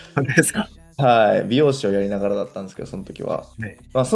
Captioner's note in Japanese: 笑い